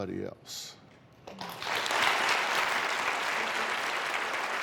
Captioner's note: applause